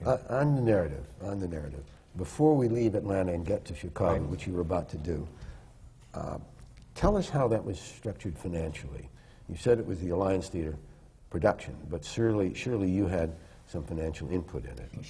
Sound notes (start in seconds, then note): none